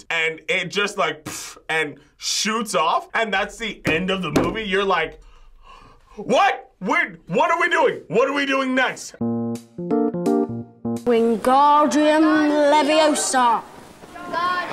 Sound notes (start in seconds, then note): 5.2 gasps; 9.2 quirky interlude